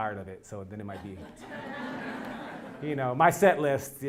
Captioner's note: laugh